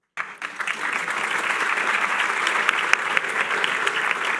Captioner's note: applause